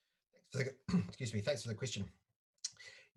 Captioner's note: coughs